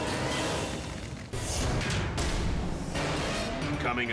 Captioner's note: metal thuds